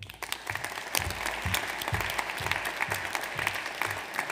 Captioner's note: audience applauds